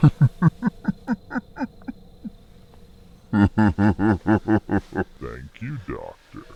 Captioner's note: laugh